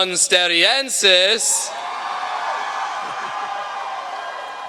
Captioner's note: cheering